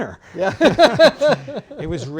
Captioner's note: laughter